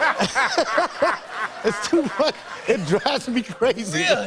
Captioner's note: laughter; laughing